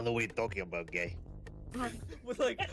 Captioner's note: laughs